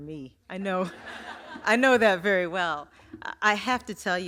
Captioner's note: laughter